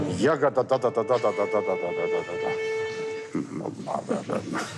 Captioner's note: conductor grumbling